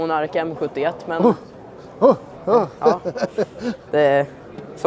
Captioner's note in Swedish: skratt